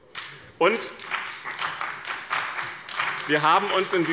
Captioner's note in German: Beifall bei dem BÜNDNIS 90/DIE GRÜNEN und der CDU